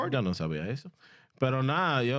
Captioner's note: speaking In Foreign Language